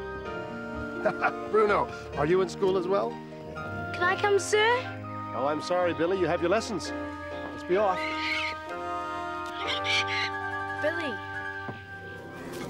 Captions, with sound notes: Bruno, are you in school as well? Can I come, sir? No, I'm sorry, Billy. - You have your lessons. - Let's be off. [SQUAWKING] Billy.